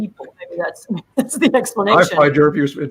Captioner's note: laughs